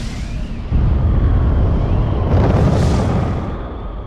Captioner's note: explosion roars